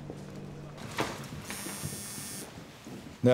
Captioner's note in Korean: 휴대전화 진동음